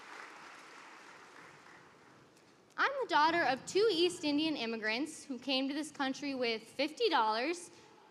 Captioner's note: applause